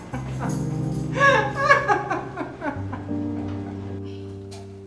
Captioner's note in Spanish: risa burlona